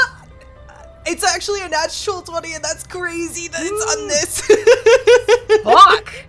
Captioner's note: laughs